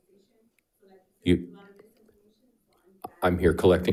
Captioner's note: faintly speaking